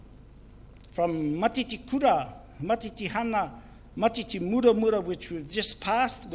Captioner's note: speaks in foreign language